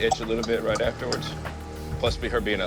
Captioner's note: coughing and sputtering